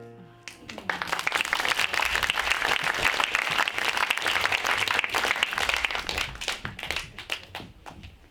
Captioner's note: audience applauding